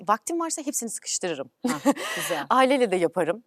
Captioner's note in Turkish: kahkaha